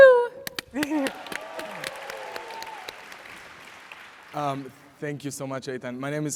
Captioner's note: audience applauds